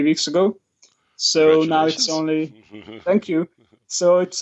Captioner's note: laughs